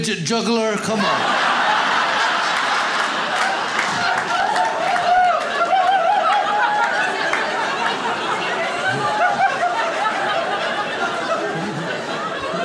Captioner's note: audience laughs